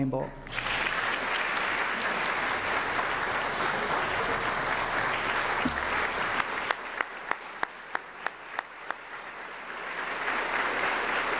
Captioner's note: applause